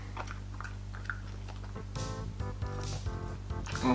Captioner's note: chewing Sounds